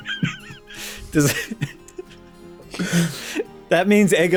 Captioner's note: cuts self off laughing